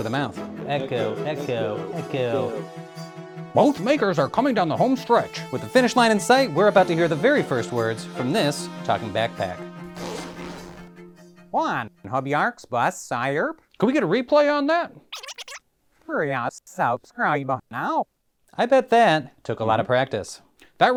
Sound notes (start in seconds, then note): 9.9 zipper purrs; 15.1 tape rewinding